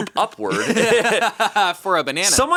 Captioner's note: all laughing